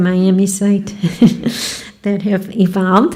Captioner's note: laughing